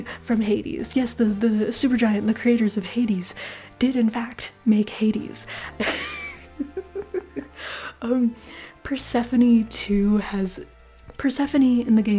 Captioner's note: laughter